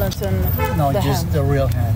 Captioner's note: horn